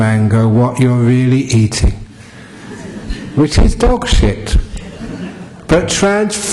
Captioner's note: laugher